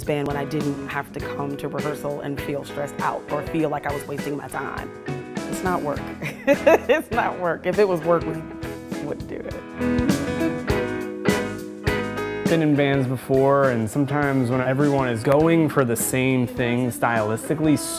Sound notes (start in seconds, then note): 6.2 laughing